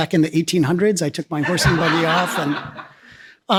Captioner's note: laughs